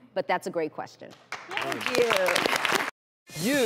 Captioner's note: audience claps